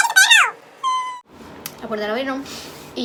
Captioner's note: cries